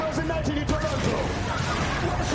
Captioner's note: audience laughs